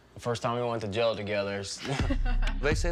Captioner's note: laughter